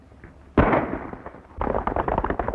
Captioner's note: gunshot